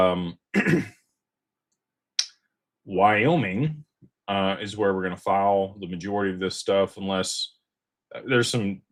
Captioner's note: clears throat